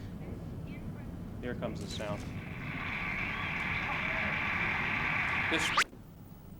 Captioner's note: applause from video